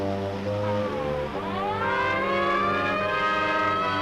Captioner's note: siren blaring